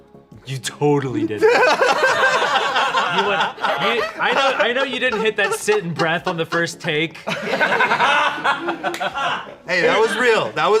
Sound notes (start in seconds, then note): 1.9 everyone laughs